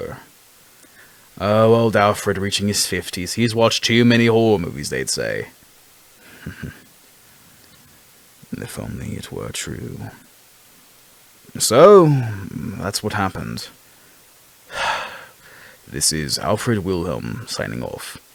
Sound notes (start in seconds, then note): 14.7 sigh